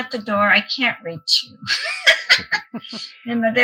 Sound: laughs

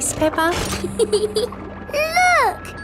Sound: peppa giggles

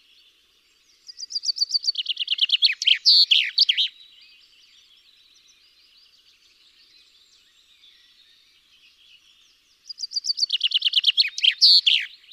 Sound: chaffinch song

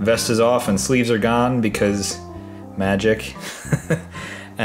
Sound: laughs

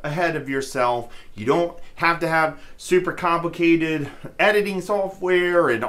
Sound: chuckles

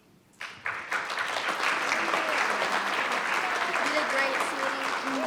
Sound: audience applauding

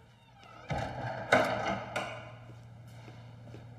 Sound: door thuds

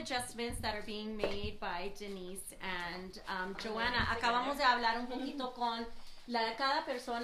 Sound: in Spanish

